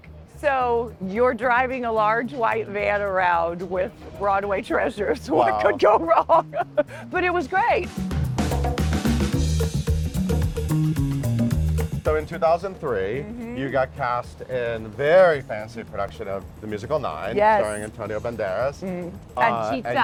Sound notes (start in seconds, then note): 5.1 laughing